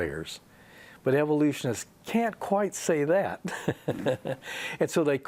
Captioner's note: he laughs